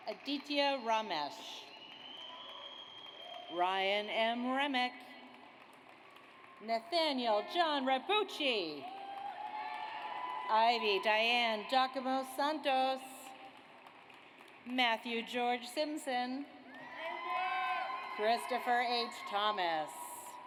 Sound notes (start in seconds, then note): 5.4 audience applauds; 8.8 audience cheers; 13.5 audience applauds; 16.7 audience cheers; 20.2 audience applauds